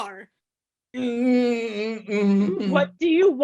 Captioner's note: Dick groaning